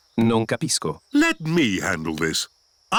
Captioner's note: replies in italian